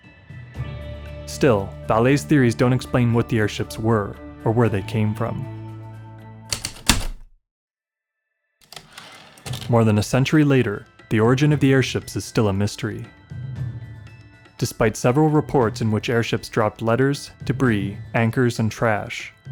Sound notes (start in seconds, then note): 6.5 typewriter clicks and slide